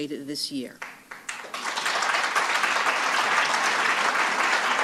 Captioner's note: applause